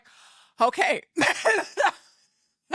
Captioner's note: laughing